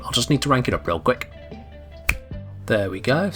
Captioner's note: snap